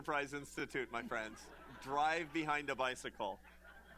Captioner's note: laughter